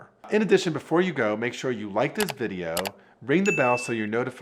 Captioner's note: mouse clicking